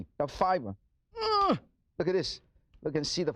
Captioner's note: grunts